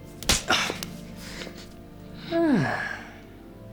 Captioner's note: slapping